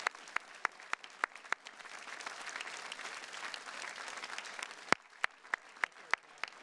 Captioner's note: attendees continue cheering and clapping